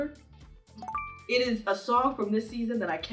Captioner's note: notification chiming